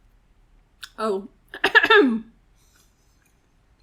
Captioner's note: coughing